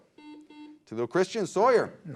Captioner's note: beep